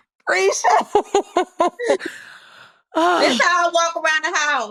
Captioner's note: laughs